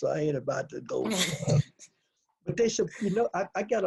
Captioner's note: laughs